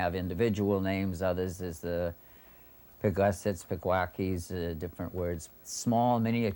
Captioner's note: non-english speech